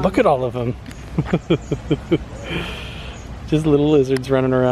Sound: chuckles

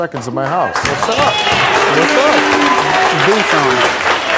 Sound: applause

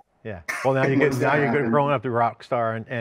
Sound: laughs

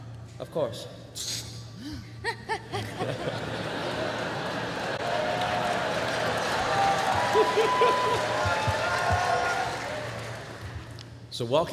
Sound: laughter

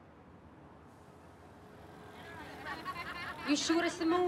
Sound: motorbike speeds past

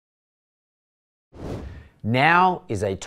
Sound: air whooshing

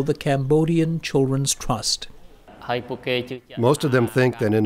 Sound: through translator

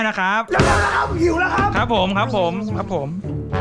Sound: pat

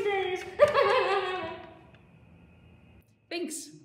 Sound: subdued unhinged laughter

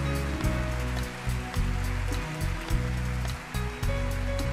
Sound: audience applauding

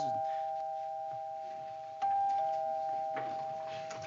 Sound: doorbell

